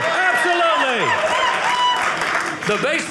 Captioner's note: audience applauding